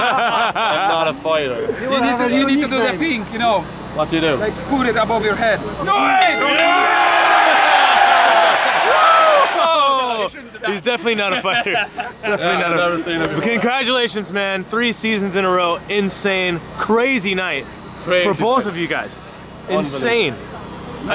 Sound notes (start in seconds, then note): 0.0 all laughing; 6.0 bell dinging; 7.8 crowd cheering